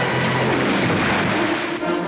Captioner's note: crashing